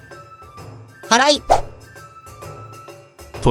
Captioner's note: sweeping